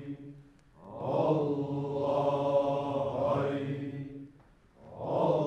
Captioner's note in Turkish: Hep bir ağızdan